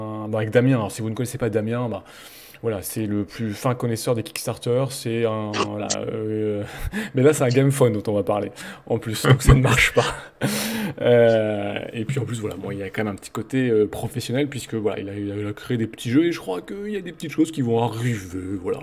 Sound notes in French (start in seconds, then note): 9.2 Rire